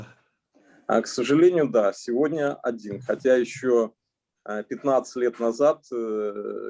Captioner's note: speaking Russian language